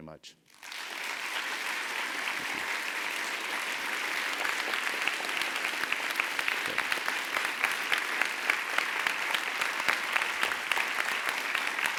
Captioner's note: applause